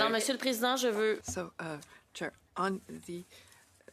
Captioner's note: speaking in French